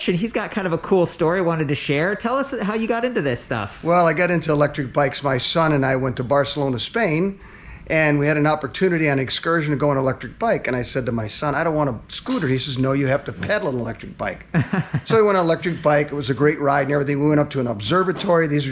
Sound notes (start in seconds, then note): 14.5 laughs